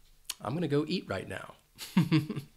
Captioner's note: chuckles